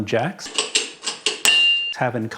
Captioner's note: jack pumps